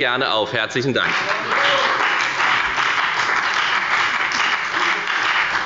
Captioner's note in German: Beifall bei der FDP und bei Abgeordneten der SPD